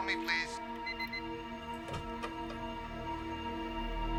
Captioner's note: machine beeping